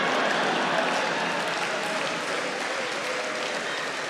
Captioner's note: audience clapping